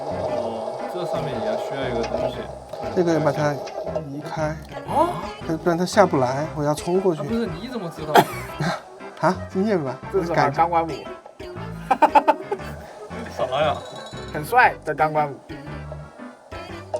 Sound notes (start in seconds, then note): 11.8 laughter